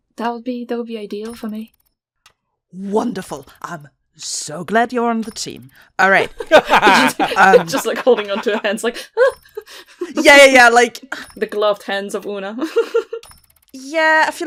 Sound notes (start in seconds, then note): 6.3 laughter; 13.1 laughs